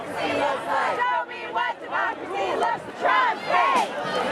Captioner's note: unison chant